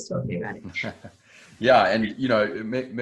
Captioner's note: laughing